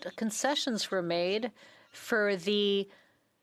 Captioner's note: speaking French